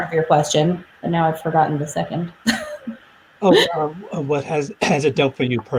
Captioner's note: laughs